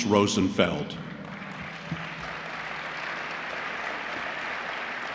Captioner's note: applause